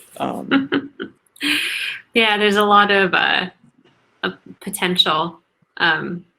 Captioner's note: laughs